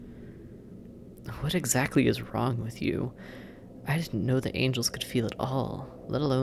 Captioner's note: accusatory